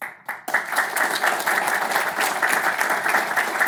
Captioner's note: audience applauds